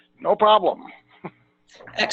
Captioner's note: chuckle